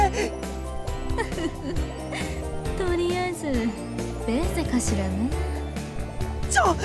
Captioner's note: giggle